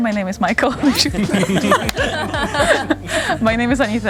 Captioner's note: everyone laughing